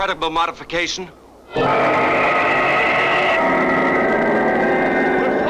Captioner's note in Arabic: هدير محرك الصاروخ